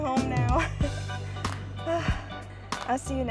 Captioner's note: sigh